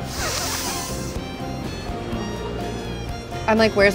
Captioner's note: inhaling loudly